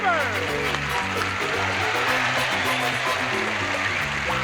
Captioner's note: applause